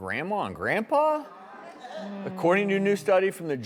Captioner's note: audience murmurs